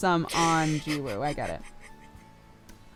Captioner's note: cry; laughs under his breath